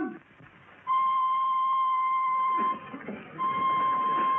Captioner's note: people chattering